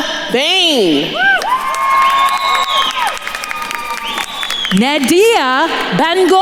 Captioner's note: attendees cheering and applauding